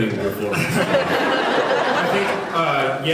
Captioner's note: laughs